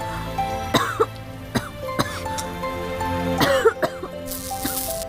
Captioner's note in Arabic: سعال